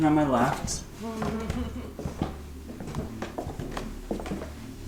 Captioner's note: giggling